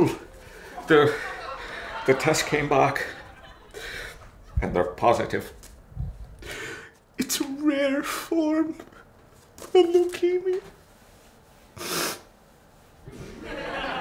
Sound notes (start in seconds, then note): 9.5 sniffling